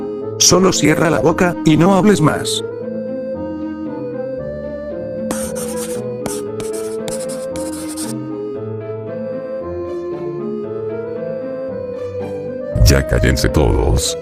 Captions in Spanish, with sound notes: solo cierra la boca- y no hables más... [Sonido de escribiendo pizarra] Ya cállense todos-